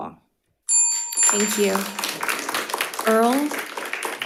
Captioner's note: crowd applauding